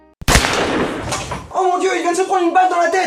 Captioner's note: bang!